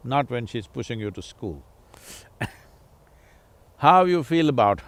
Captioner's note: laughs